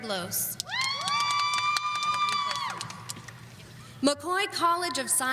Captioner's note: audience cheering